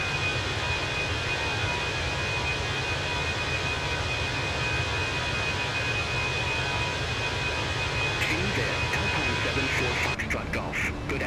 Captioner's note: radio chatter